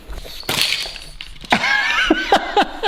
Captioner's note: biscuits scatter; dispenser rattles; laughs